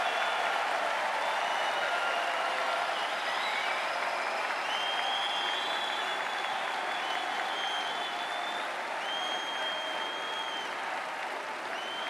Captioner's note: cheering and Applause